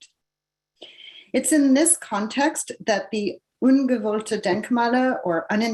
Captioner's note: non-english speech